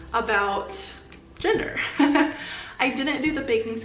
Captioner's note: laughs